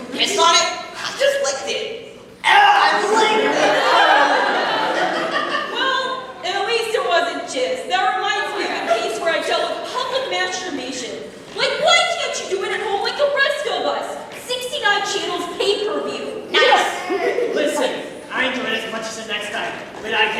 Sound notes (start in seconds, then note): 2.4 gags